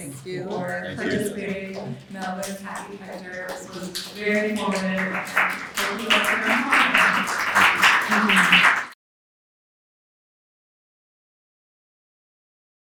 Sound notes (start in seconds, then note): 5.9 applause; 5.9 softly talking off mic